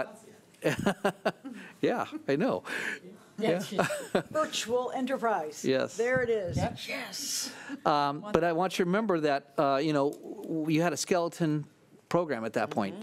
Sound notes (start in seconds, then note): 3.7 laughing